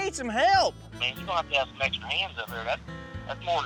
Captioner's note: on speakerphone